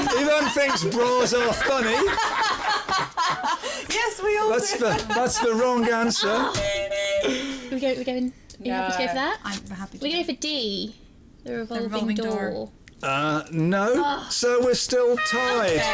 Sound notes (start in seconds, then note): 4.2 laughing; 7.1 buzzer; 15.1 loser's sad trumpet